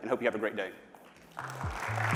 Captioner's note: applause